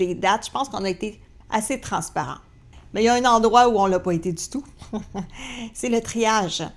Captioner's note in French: rire